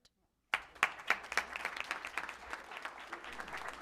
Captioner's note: applause